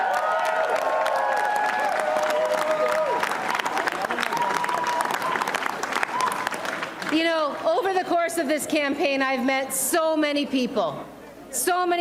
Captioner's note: cheers and applause